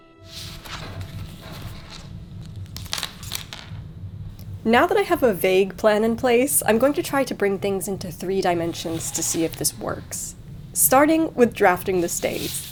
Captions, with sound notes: (tools rustling) Now that I have a vague plan in place, I'm going to try to bring things into three dimensions to see if this works. Starting with drafting the stays.